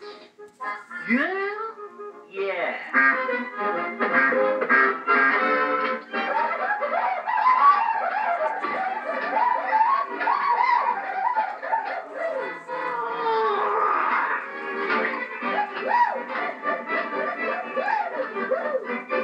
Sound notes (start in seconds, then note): 2.9 honk; 15.5 whooping